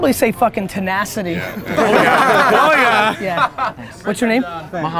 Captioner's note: group laughter